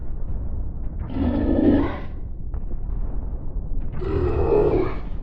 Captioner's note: aligator grunting